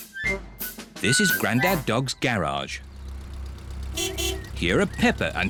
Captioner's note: horn beeps